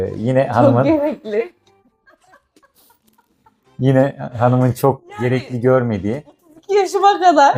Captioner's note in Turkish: kahkaha